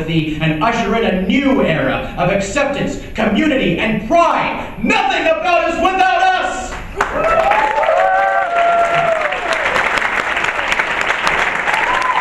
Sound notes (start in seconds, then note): 6.7 applause